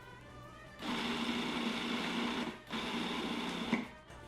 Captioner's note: pulsing